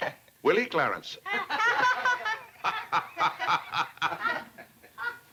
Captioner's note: laughter